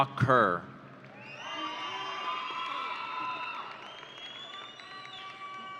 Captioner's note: audience cheering